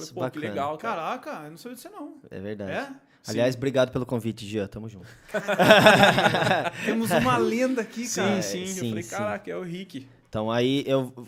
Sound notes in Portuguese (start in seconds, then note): 5.3 Risos de alegria